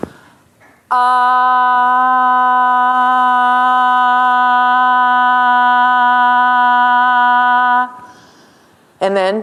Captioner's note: medium pitched ah sound